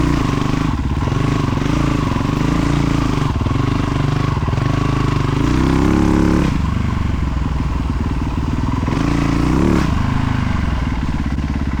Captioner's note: engine revving